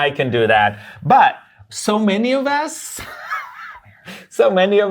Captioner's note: laughs